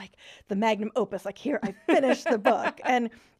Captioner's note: laughing